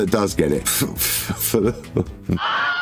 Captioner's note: laughs